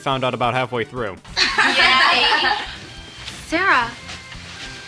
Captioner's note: all laugh